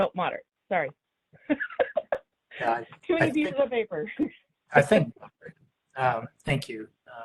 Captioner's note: laughs